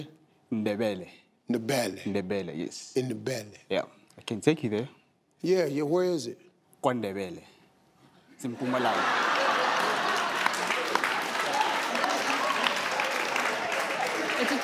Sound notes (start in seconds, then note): 8.5 audience laughing; 11.9 audience clapping